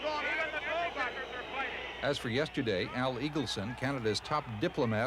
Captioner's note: crowd boos